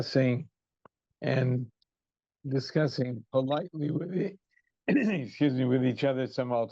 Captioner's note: throat clears